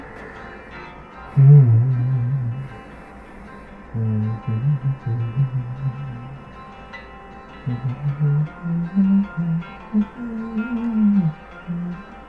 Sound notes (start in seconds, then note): 0.0 hums to music